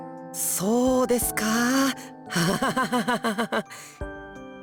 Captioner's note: awkward laugh